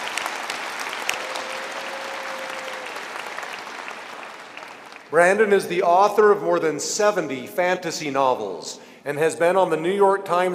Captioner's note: cheering and applause